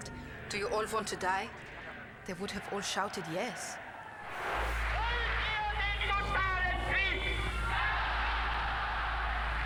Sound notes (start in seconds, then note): 3.1 German dialogue